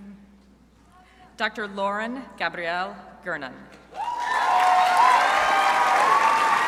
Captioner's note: crowd applauding